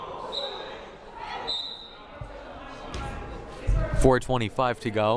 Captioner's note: whistle blaring